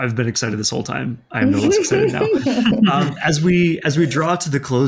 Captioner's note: laughter drowns out speaker